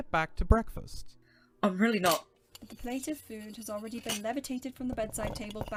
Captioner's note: cutlery and plate scuttles